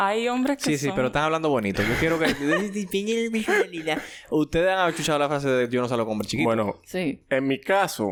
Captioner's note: laughs